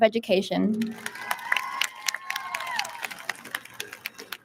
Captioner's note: audience lauds